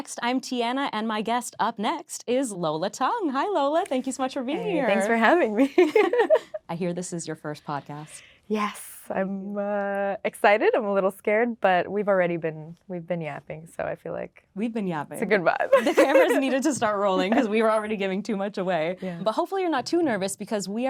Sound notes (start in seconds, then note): 6.1 laughing